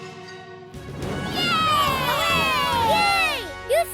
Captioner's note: cheering